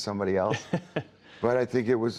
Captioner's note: laughter